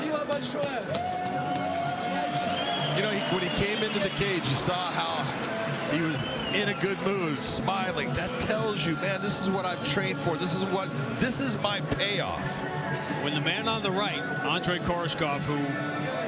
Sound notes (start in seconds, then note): 7.4 cheering